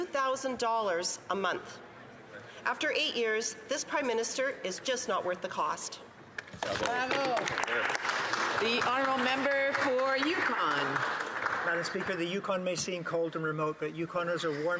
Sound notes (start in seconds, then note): 9.9 some Applause